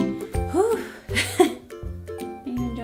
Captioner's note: playful music; sighs; laughs